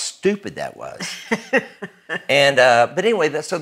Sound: laughing

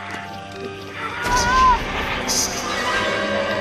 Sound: screaming

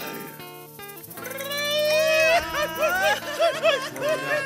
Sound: band member growls; shrill Mexican trilling

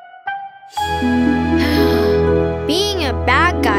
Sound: sighs

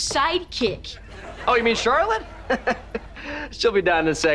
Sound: laughing

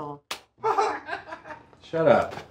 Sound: laughing

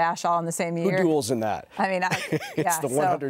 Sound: laughs

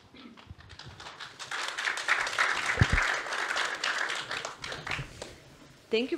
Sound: applause

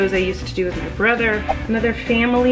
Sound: whooshing

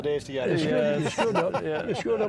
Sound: laughter

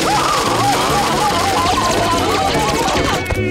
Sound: screaming

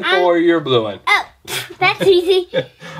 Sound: laughing

